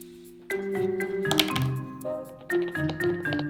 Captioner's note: lid hitting table